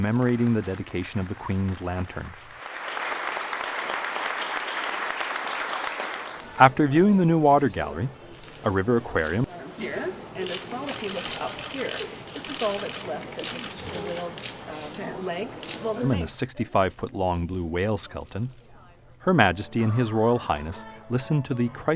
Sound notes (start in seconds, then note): 2.7 applause; 10.4 camera shutter sounds